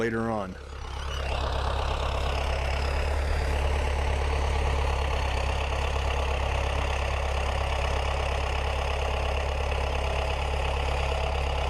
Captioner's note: tractor sound